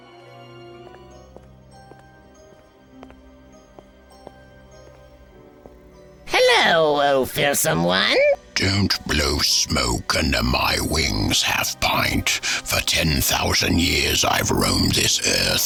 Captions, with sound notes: (footsteps) Hello, oh fearsome one. - Don't blow smoke under my wings, half-pint. For 10,000 years, I've roamed this earth,